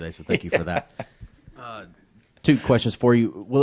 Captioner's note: Shane laughs